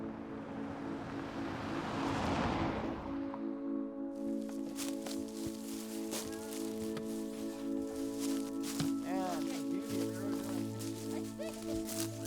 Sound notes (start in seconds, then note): 0.4 car engine revving; 4.6 paper shuffling; 6.4 low tone music; 8.4 leaves crackling